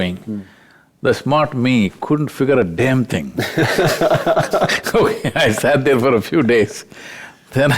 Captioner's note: both Laugh